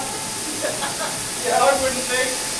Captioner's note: laughing